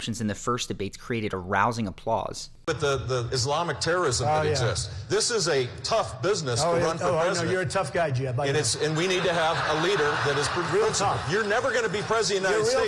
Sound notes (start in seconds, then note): 8.8 audience laughs